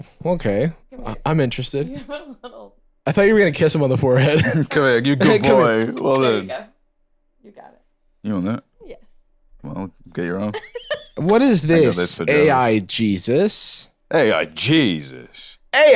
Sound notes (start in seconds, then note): 7.0 smooches; 10.5 laughs